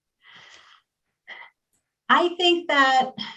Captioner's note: sighs